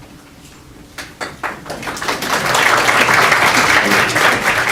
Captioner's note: applause